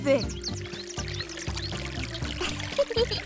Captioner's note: watering sounds; laughs